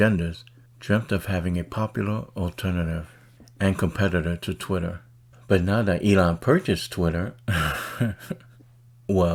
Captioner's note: chuckles